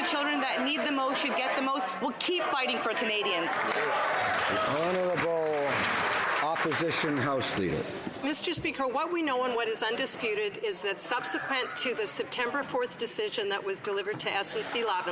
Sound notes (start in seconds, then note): 8.4 some Applause